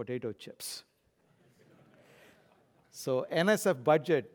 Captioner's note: laugh